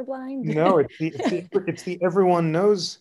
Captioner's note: laughter